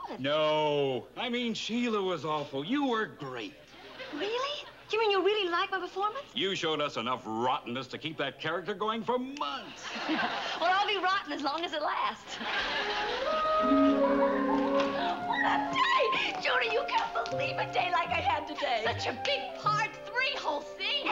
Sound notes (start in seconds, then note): 9.7 giggles; 14.3 giggling